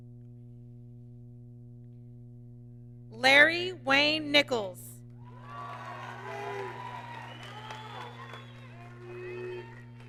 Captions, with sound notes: Larry Wayne Nichols, (applause)